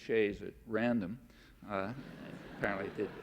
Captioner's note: laughter